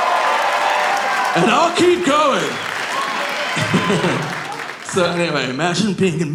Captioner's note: audience cheering; laughing